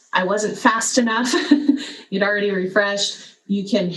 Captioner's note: laugh